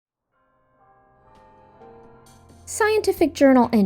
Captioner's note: bell chiming